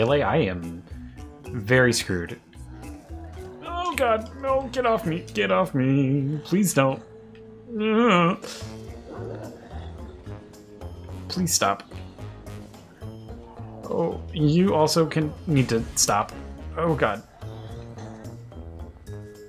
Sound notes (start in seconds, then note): 7.0 general sounds of sadness